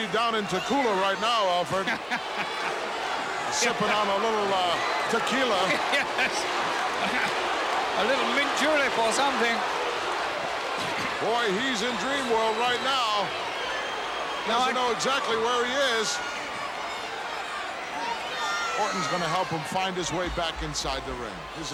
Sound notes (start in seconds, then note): 2.0 chuckles; 5.8 laughs